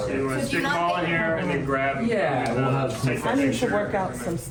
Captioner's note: people chattering